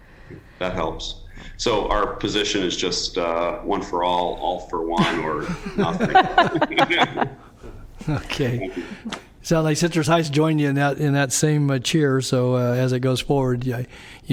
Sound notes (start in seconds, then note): 8.1 laughter